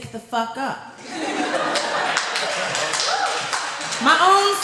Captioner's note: laughter